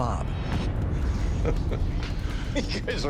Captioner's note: chuckling